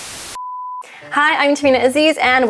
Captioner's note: TV static